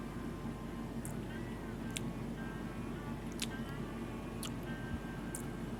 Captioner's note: chewing sounds